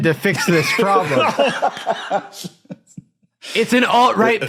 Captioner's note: laughs